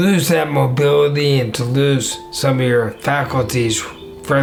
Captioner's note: none